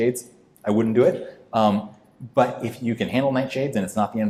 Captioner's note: none